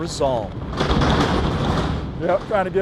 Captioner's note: truck clanging